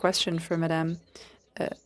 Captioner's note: speaking FRENCH